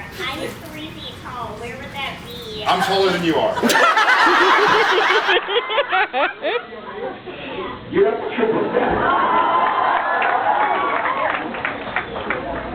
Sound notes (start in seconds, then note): 3.6 laughs; 8.9 awws, cheers, applauds